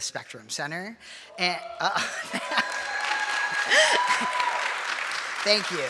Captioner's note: audience cheering and applauding